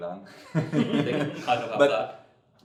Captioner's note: laughs